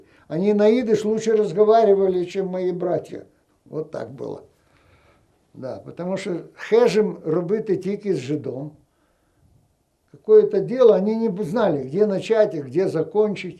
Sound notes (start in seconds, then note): 7.2 ukrainian